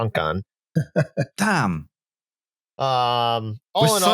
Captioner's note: chuckles